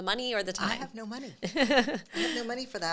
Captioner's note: laughs